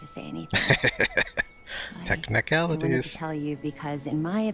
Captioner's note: laughing